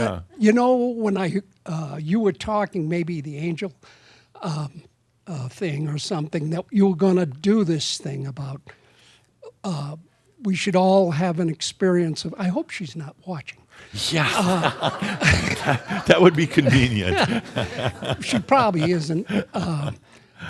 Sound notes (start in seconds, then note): 13.9 laughter; 16.9 chuckles